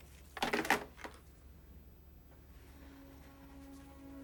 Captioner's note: phone thudding; slow music